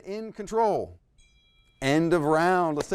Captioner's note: bell ringing